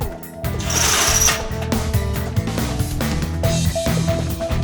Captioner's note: tile cutter scrapes